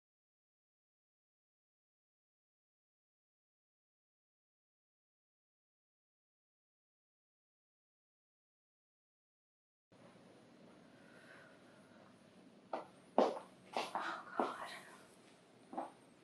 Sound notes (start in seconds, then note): 13.9 female breathing heavily, panicking